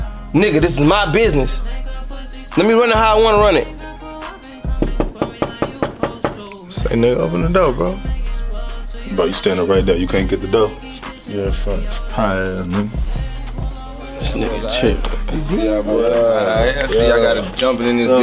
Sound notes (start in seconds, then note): 4.7 knocking